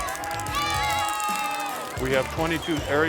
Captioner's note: children cheering